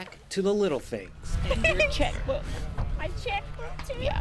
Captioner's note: laughing